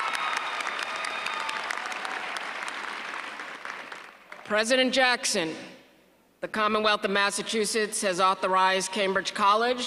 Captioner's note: applause